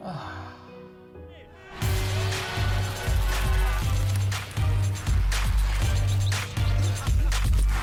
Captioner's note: exciting music; people shouting